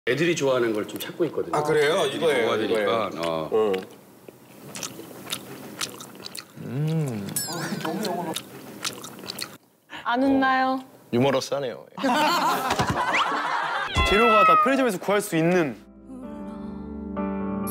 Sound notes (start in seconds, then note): 4.2 nom.nom.nom.nom; 6.2 mmm